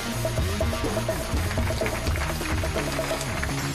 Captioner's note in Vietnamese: tiếng vỗ tay